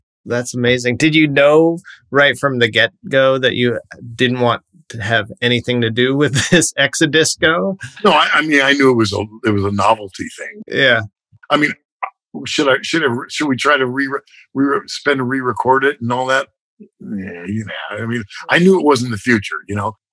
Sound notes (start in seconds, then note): 6.2 laughter